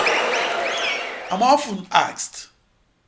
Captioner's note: wild applause and cheering for 22 seconds